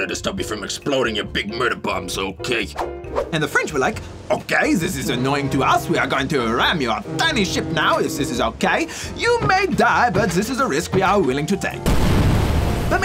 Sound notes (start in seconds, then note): 4.2 french accent